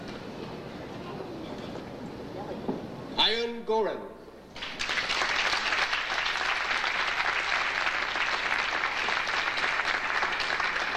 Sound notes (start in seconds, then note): 4.6 audience applauding